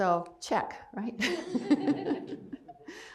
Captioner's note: laughs